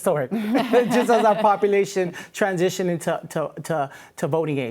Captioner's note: laughing